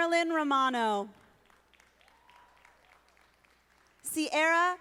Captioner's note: audience applauding